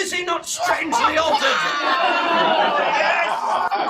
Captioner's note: laughing